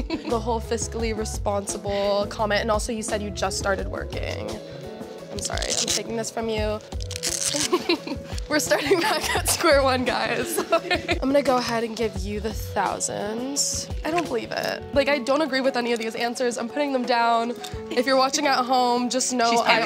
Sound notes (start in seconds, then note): 10.0 laughs